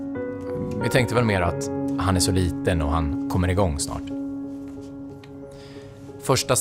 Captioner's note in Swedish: Mansröst